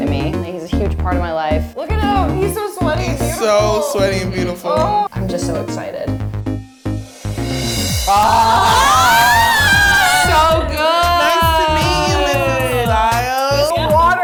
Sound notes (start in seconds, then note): 8.1 girls exclaiming